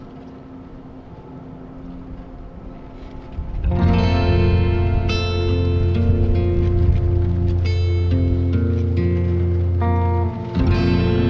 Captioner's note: the peaceful sound of wind rustling the leaves